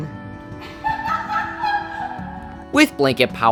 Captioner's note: laughs